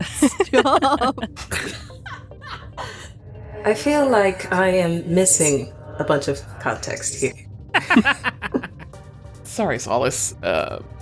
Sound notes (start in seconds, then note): 0.0 laughing; 7.7 laughs